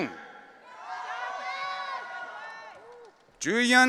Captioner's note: audience cheering